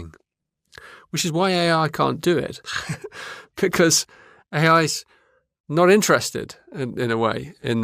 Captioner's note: laughs